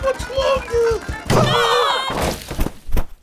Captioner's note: screams